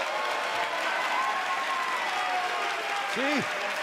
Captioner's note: cheers & applause